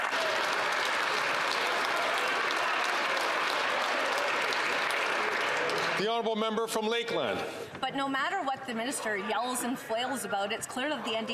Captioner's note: some Applause